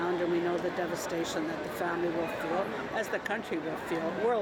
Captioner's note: none